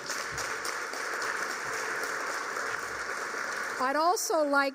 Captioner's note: applause